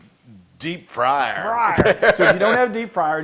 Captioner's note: laugh